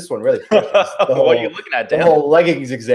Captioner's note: laughs